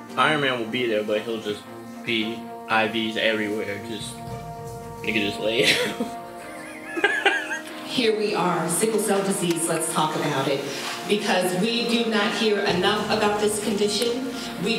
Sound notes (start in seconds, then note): 5.6 laughs